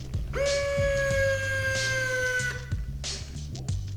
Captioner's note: whining